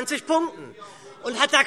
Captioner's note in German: Zurufe: Aha!